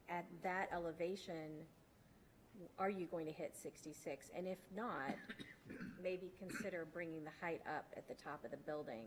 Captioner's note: clears throat